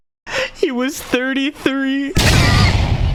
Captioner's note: impact noise